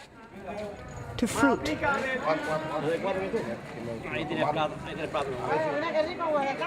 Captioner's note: speaking spanish